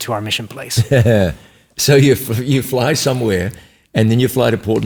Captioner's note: laughs